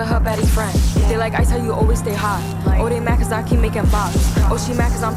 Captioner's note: bops